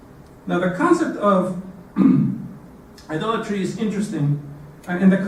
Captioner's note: cough